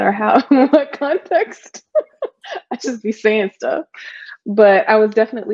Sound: laughing

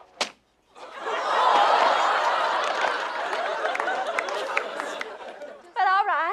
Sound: slap

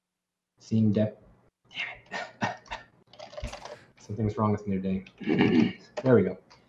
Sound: chuckles

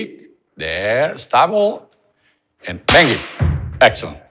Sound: hands clapped

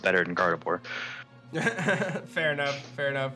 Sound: laughs

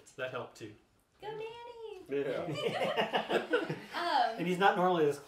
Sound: laughs

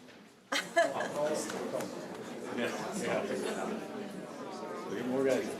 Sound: indistinct conversation

